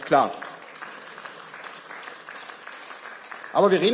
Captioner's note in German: Beifall